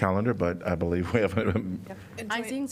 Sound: laughter

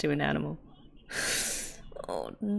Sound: sharp inhale

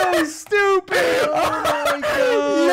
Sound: laughing

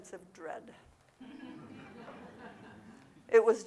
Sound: audience laughing

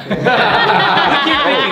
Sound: laughing

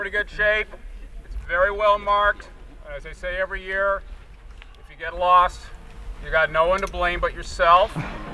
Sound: laughter

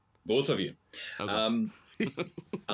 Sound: chuckles

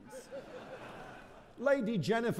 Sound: audience laughing

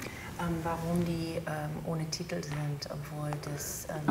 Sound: speaks German

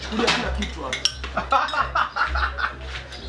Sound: laughs

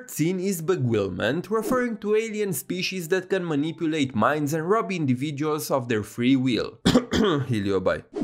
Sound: cough

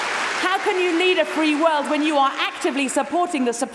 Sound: cheering & Applause

